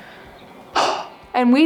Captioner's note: exhales